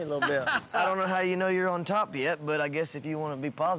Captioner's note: laughing